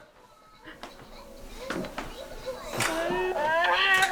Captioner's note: toy plays sounds